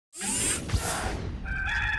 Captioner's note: electronic logo sound plays; rooster calls